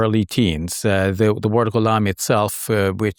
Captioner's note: speaks in Arabic